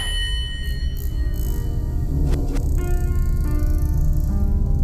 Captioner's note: chimes ringing